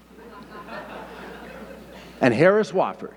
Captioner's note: audience laughing